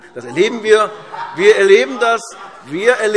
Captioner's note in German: Lachen und Zurufe SPD